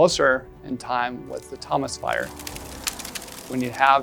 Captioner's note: sound of fire crackling